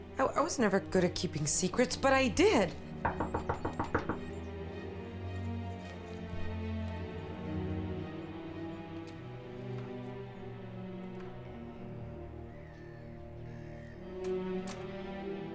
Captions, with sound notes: I was never good at keeping secrets, but I did. (knuckles tapping) (soft ominous music)